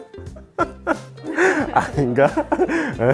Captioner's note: laugh